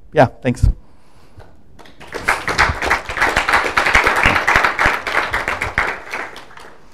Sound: applause

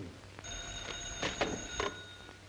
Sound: phone rings

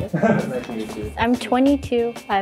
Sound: laughs

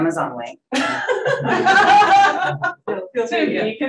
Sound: audience laughing

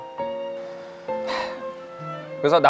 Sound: sighing

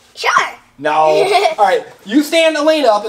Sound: laughs

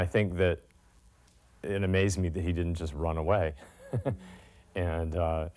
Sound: laughter

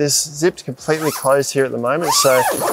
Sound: zipper pulls

